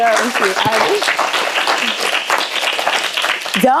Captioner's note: applause